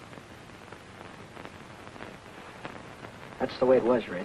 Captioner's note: none